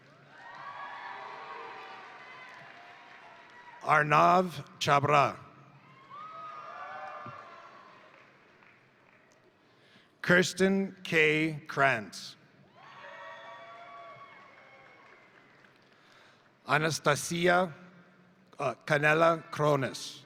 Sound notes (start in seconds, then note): 0.0 crowd cheering; 0.1 crowd applauding; 5.8 crowd cheering; 6.0 crowd applauding; 12.7 crowd cheering; 13.2 crowd applauding